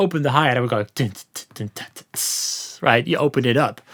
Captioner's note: mimics drum sounds